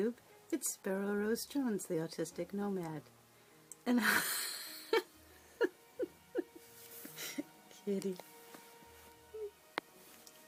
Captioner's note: laughter